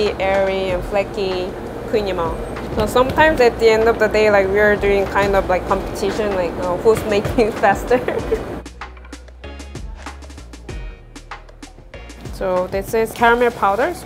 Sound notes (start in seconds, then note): 7.8 giggles; 9.4 upbeat music